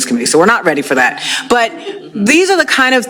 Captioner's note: laughter